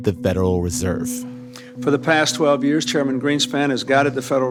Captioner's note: soundbite of archived recording